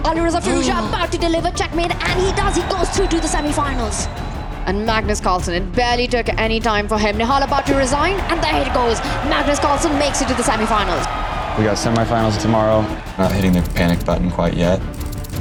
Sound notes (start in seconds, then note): 4.0 crowd cheering; 8.9 crowd cheering